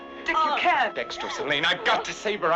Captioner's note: Janet grunting